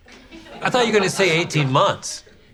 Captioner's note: audience laughs